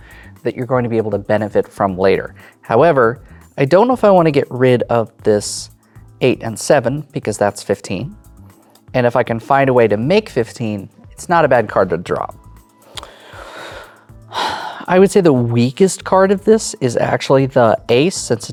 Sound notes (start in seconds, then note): 14.2 sighs